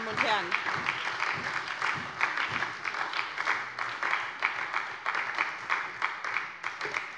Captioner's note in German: Beifall bei der SPD